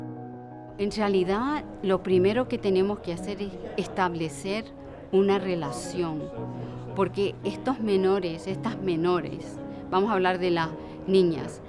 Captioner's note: Spanish